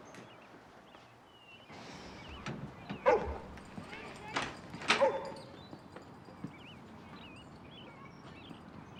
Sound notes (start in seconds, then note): 2.9 angus barking; 2.9 door opens